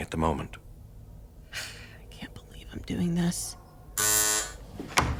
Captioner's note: sighing